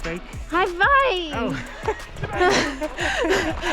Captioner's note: laughs